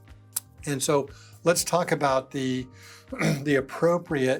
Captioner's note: clears throat